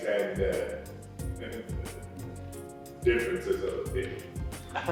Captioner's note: chuckles